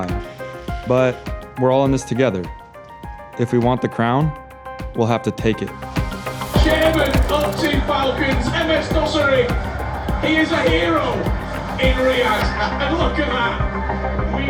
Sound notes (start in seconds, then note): 0.3 blows air; 6.6 commentator over TV